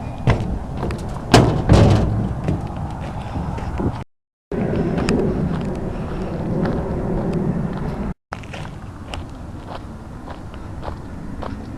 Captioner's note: footsteps